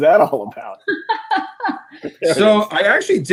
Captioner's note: laughs